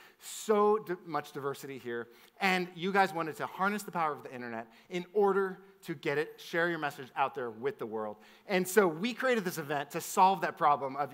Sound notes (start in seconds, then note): none